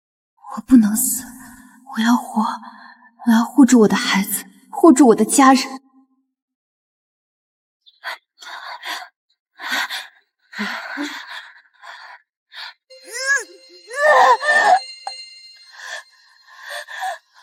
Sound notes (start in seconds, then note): 9.6 screams